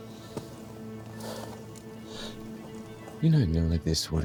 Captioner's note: deep exhale